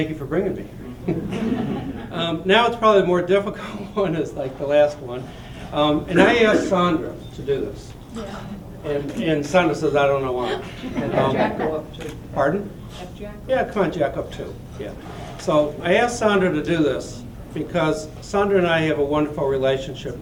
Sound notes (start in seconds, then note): 1.0 laughter; 11.2 voiceover